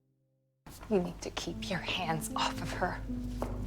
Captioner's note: voiceover